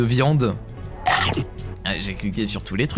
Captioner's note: random sfx cartoon of eating